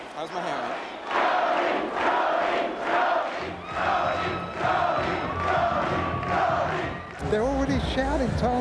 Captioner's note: crowd chanting "Tony! Tony!"